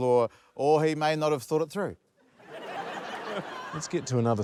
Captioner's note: laughter